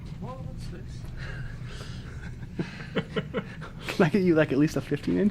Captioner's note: men laughing